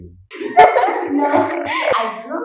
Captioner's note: laughs